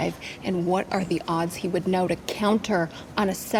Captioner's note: none